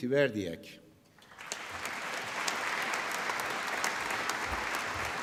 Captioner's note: applause